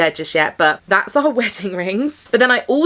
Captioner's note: chuckles